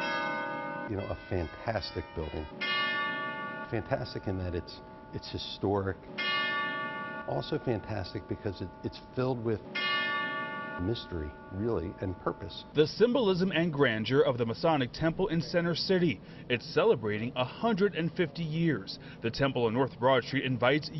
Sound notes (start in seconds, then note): 4.6 bell rings; 9.9 bell rings